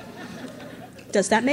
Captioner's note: crowd laughs